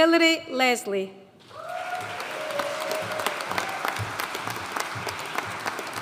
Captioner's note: audience cheering and applauding